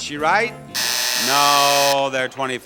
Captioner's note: buzzer buzzes